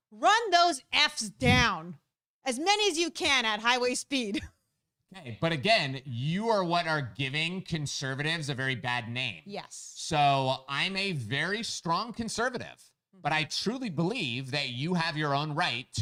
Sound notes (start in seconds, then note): 4.8 chuckles